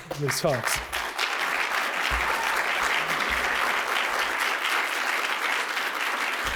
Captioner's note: applause